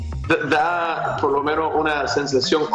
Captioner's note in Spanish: risas